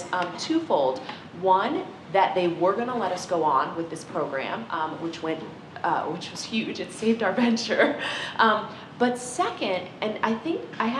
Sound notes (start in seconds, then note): none